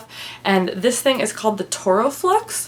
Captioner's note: none